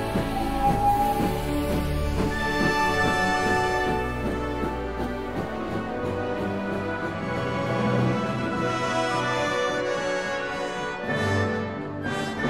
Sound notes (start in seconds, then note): 0.0 whistle blowing; 0.0 train puffing; 3.0 train chugging